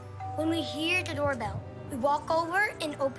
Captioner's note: doorbell